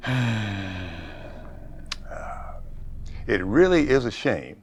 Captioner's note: sighing